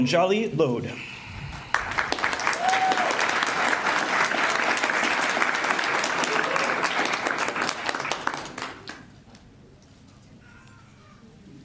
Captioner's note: applause